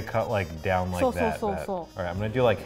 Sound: speaks in foreign language

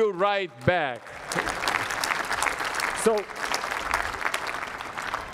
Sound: applause

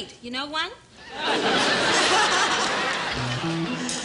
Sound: audience laughs

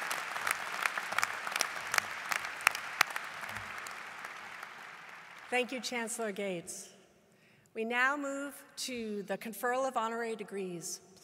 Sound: applause

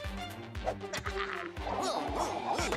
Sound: laughing

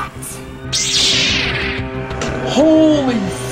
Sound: lightsaber shing

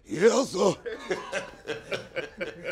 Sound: all laughing

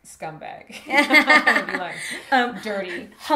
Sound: laughs

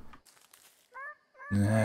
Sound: Mandrake meeping; frustrated grunt

